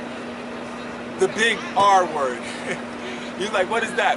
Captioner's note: laughs